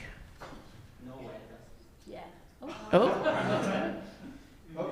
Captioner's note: people speak off mic